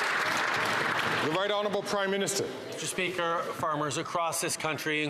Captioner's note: some Applause